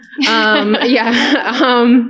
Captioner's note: laughter